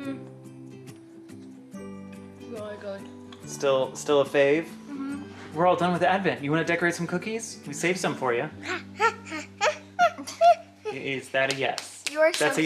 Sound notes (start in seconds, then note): 8.6 toddler noises